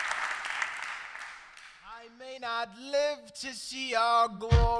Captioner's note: applause